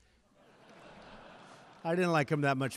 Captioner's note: laughter